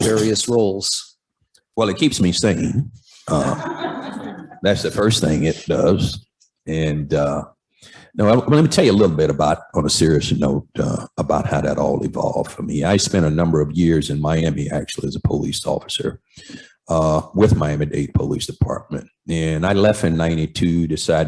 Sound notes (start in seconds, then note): 3.3 laughter